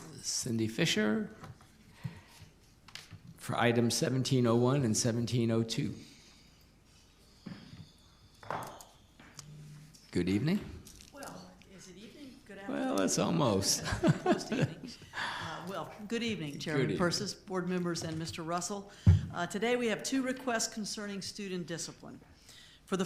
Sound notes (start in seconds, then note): 13.8 laughs